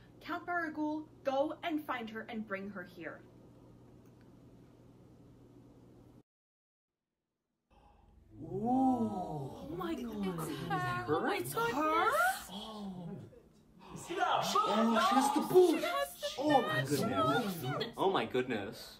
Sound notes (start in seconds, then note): 9.4 gasps and exclamations of amazement